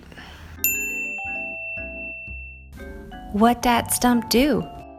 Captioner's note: bell dings